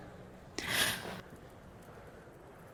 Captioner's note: half-sob